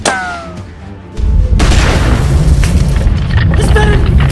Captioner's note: rumble sound